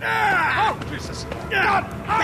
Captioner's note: yelling